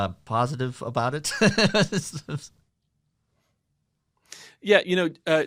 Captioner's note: laughs